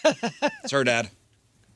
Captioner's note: laughing